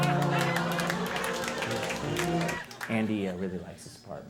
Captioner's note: audience applauding